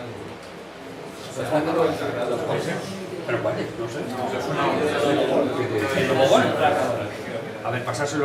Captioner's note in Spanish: murmullos